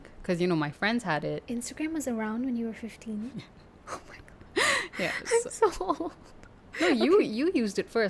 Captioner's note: laugh